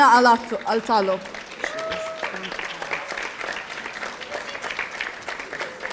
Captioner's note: audience applauding